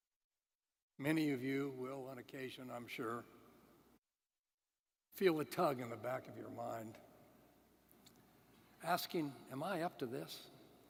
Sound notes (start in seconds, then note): none